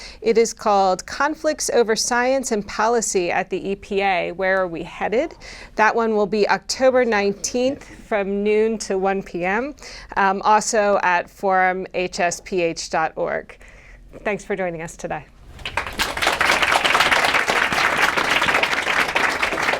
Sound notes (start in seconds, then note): 15.5 applause